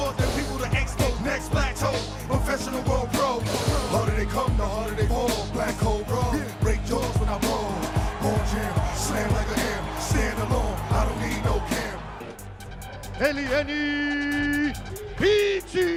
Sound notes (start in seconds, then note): 3.0 blows; 12.2 announcer speaking Portuguese